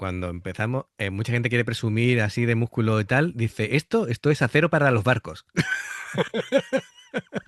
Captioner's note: laughs